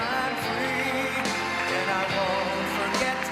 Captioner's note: applause